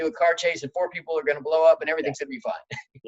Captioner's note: laughing